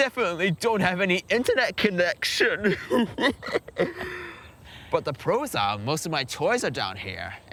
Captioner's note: sobs